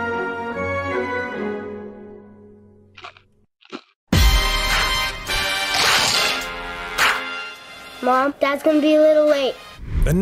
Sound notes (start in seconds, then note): 3.6 chip crunching; 3.6 logo crunching; 4.1 lively music